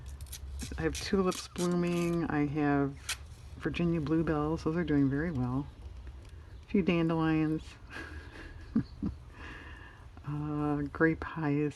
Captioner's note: laughs